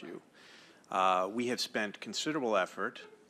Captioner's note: off microphone